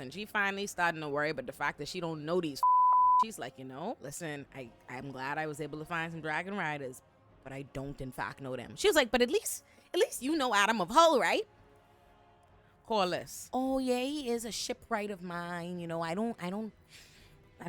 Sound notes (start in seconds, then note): 2.6 beep